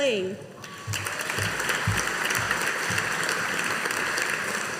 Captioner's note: audience applauding